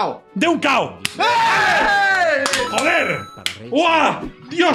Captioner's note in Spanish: gritan